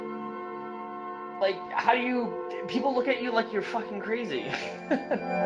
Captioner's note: chuckles